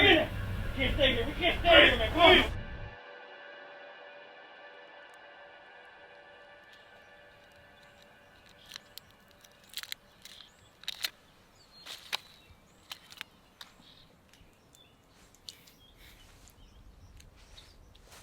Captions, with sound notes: (gentle music) (birds chirping) - He believed you, you know,